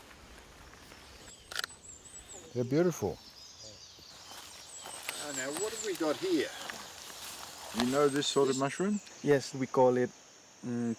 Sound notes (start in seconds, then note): 1.4 shutter clicks; 9.9 speaks in foreign language